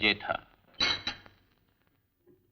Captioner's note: clattering